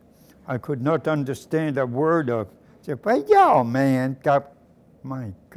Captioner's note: mocks Polish